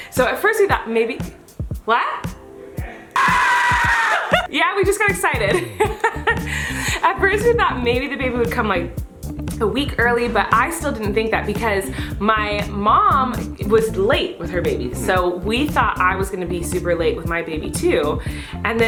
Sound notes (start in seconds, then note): 3.1 screaming; 5.5 laughs